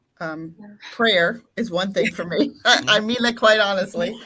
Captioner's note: laughing